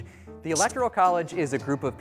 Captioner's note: highlighter squeaking